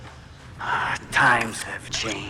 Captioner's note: sighs